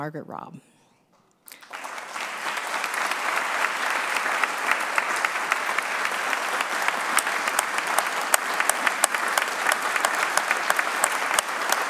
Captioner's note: applause